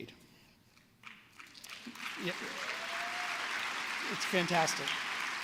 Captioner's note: applause